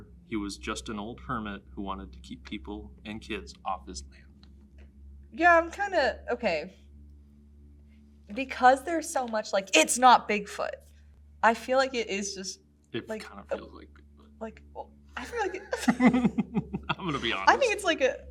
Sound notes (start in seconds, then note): 15.2 laughs